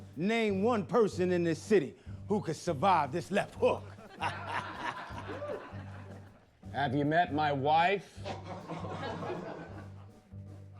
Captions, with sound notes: Name one person in this city who could survive this left hook. [LAUGHS] Have you met my wife? [LAUGHTER]